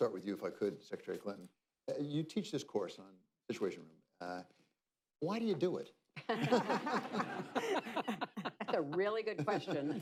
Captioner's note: laughter